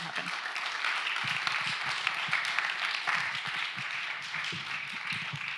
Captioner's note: applause